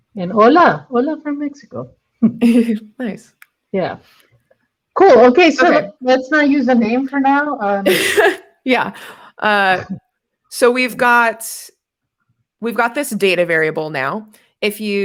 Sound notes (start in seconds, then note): 7.8 laughs